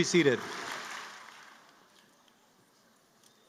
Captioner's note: cheering